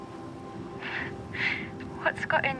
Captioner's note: laughs